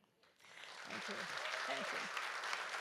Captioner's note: audience applauds